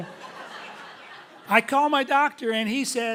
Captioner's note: audience laughing loudly